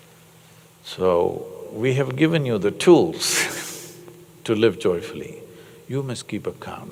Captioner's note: laughs